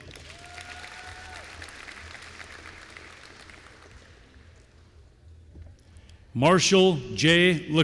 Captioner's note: applause